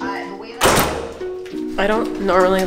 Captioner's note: door closes